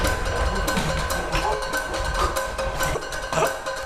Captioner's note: gasp